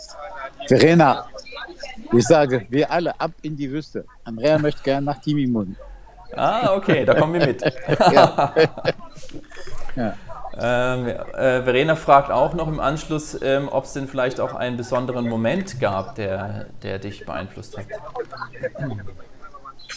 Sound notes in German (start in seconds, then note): 6.4 Gelächter